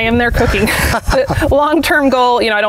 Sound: both chuckle

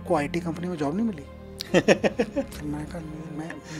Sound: laughing

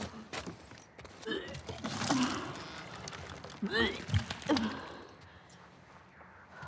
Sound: retching

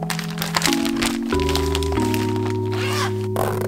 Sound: bag rustling; zip fastening

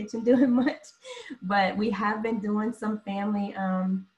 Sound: laughter

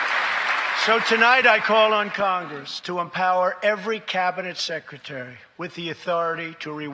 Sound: applause

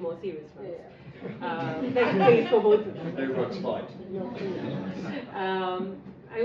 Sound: laughing

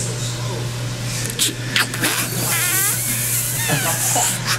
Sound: snickering

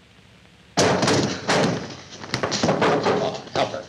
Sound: loud thud

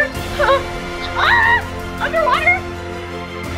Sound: screams

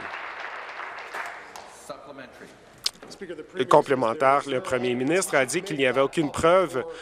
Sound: applause

